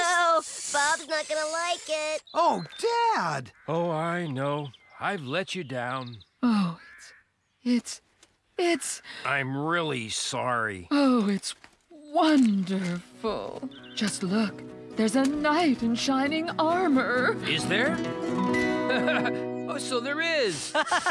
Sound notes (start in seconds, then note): 3.9 sighs